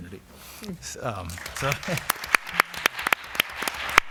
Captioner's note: applause